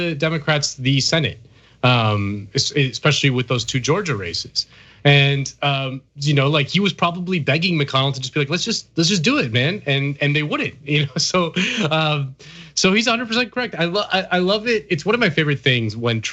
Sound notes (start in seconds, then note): 11.0 laugh